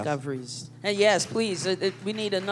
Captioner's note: applause